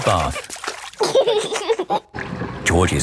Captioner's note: giggling